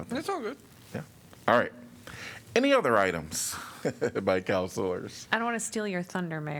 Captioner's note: laughter